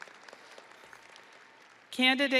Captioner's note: audience applauding